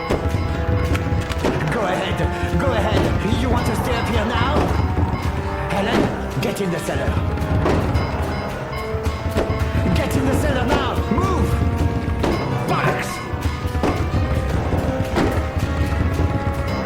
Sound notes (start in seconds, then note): 0.9 gun cranking; 13.7 suspenseful music